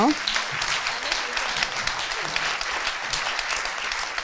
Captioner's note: audience applauding